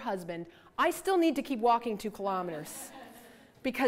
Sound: audience laughter

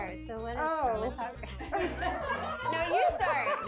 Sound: laugh

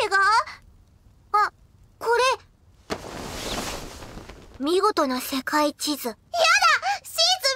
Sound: sound of bedsheet

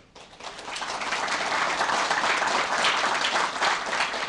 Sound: applause

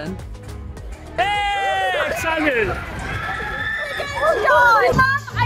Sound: shouting

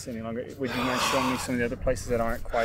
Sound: he gasps

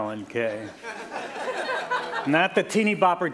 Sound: laughter

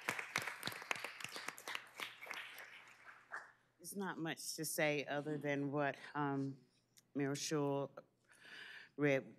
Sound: applause

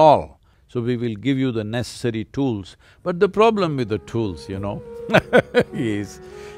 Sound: laughs

